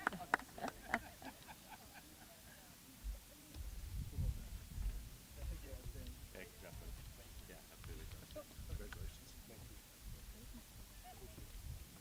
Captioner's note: applause